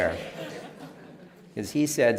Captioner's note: laughter